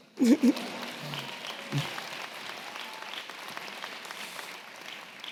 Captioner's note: audience clapping